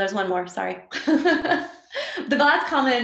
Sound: laughs

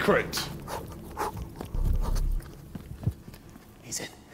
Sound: panting

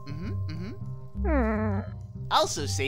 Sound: Chip Bag lets out a muffled whimper

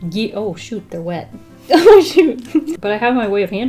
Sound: giggles

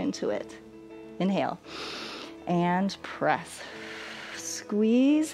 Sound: exhales; inhales

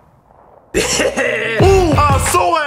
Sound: gunshot; laughing

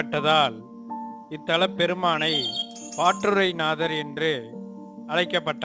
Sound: in tamil

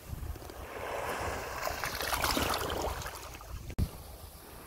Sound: water splashing

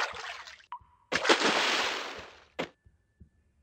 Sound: splash

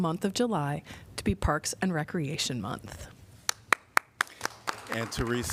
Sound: applause

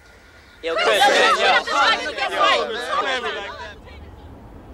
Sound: students clamor

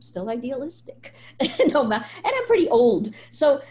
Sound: laughs

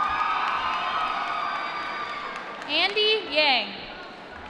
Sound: applause

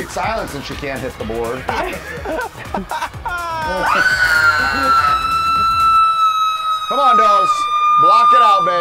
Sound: laugh

